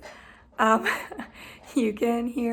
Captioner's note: laughs